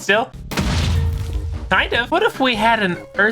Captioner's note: explosion